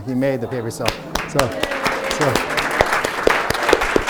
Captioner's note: group applauds